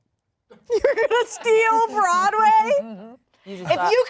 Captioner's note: laughs